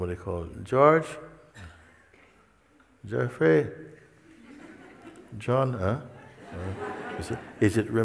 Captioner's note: Lachen